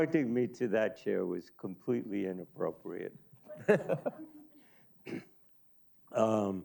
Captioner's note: chuckles